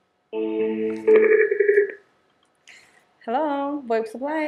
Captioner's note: phone chiming